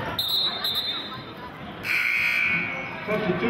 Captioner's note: whistling and buzzer sounding